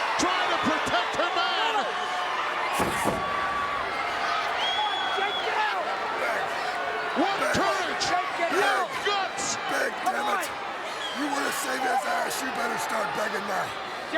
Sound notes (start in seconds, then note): 2.8 foot stomps